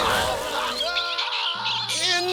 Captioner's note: chicks screeching; screaming